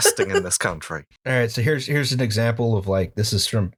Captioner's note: laughter